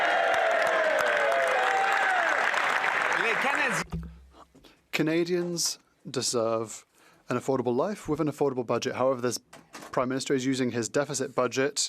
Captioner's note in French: voix de l'interprète